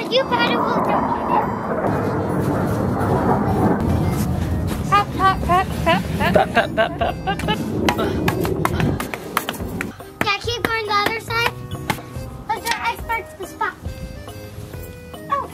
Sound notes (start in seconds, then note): 1.8 airplane whooshes; 8.2 shovel bangs